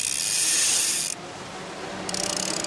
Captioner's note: vehicle approaching; horn honks